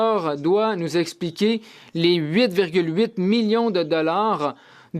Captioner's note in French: voix de l'interprète